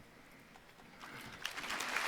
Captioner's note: applause